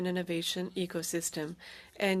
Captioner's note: speaking French